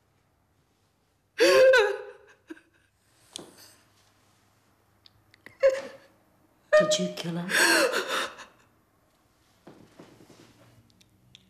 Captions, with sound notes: - Did you kill her? (crying)